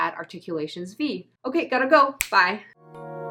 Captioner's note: snap!